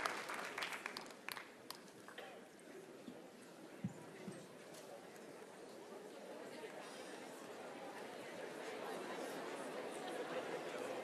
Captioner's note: applause